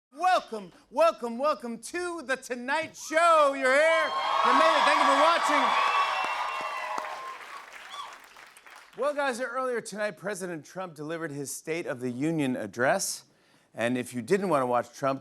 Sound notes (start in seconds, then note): 5.8 cheers and applause